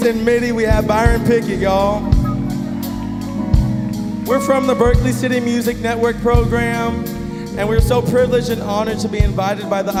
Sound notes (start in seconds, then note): 2.2 audience cheering and applauding